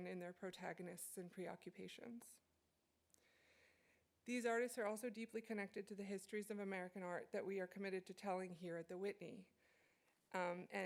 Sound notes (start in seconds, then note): none